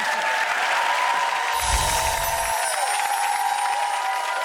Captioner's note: applause